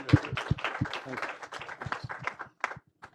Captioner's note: applause